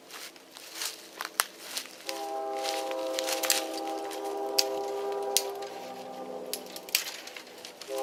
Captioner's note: train in background, sounding whistle